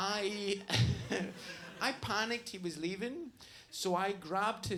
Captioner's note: laughs